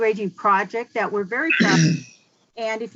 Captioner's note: man clears throat